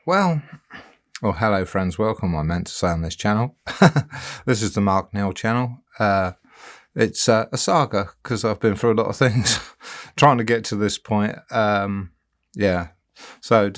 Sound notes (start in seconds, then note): 3.6 chuckling